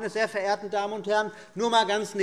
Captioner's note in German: none